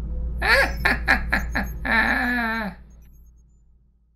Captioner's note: evil laugh